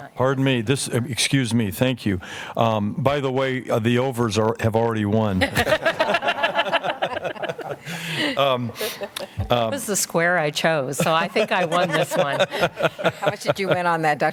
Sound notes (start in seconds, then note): 7.1 laughter